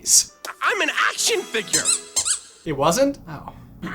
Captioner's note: squeaky squeaky